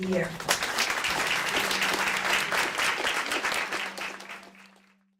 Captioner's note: audience applauding